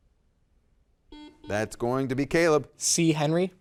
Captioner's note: buzzer dings